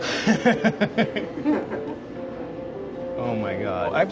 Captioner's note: laughing; playful music